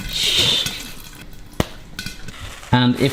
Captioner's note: clap